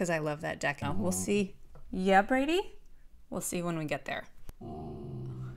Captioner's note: dog growl